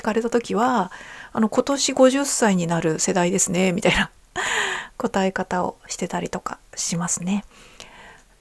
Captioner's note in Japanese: 息をのむ音